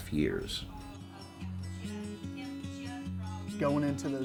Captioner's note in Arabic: ثرثرة الناس; موسيقى جيتار هادئة